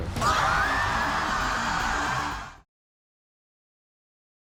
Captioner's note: crowd gasping